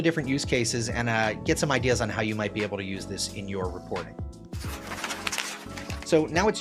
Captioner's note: paper rustles